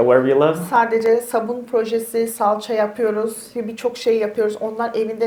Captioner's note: speaks in Turkish